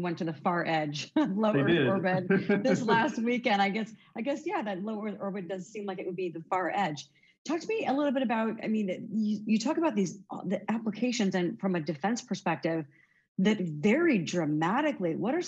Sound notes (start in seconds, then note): 1.5 chuckles; 1.5 laughing